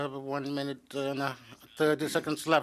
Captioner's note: speaking in French